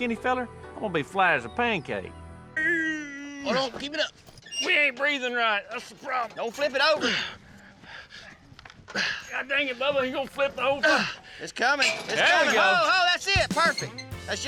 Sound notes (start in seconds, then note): 2.5 grunting; 8.8 grunting